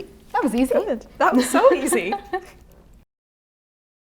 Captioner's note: laughing